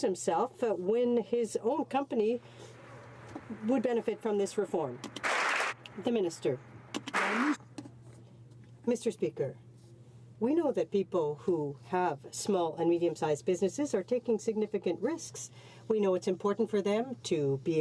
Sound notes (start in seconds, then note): 8.5 some Applause